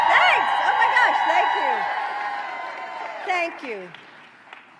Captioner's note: applause